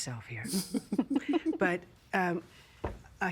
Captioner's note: laughing